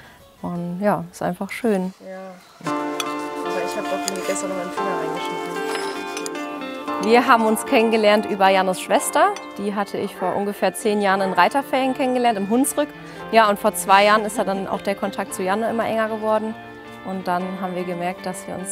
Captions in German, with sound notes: Und, ja, ist einfach schön. (Idyllische Musik) (Stimmengewirr) Wir haben uns kennengelernt über Jannes Schwester. Die lernte ich vor zehn Jahren in den Reiterferien im Hunsrück kennen. Und vor zwei Jahren ist der Kontakt zu Janne immer enger geworden. Und dann haben wir gemerkt,